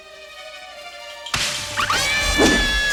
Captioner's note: branches breaking; ladies screaming